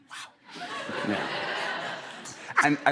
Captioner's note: laughter